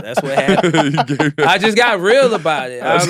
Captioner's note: laughing